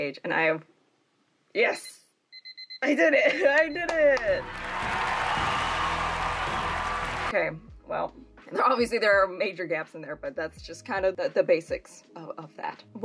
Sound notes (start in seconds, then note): 2.3 timer beeping; 3.8 triumphant music; 4.1 people cheering